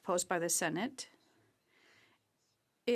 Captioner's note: speaking French